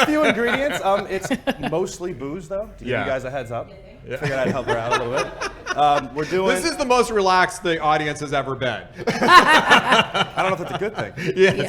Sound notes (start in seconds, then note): 4.0 laughing; 8.9 laughing